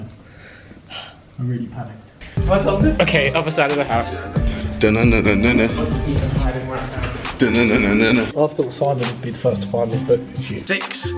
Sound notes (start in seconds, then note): 3.8 humming